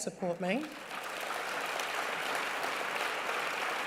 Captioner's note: applause